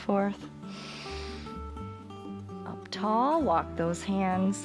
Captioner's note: inhales